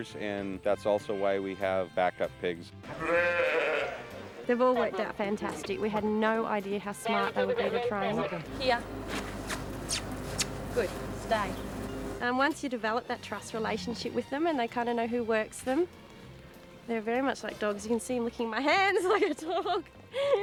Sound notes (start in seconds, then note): 2.8 bleating; 18.6 laughing